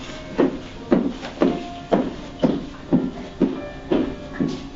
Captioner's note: footsteps walking away